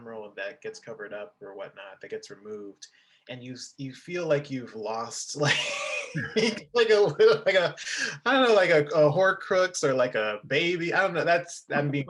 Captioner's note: laughing